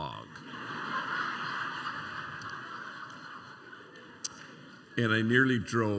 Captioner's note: laughter